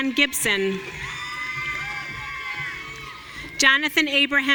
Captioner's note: audience cheering